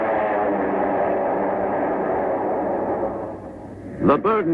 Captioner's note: airplane engine roaring